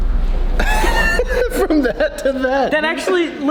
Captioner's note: laughter